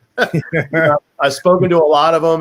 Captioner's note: laughing